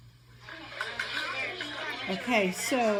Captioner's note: kids talking